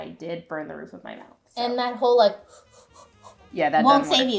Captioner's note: hoo hooo hoo